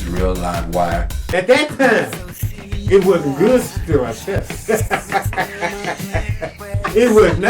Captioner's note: laughs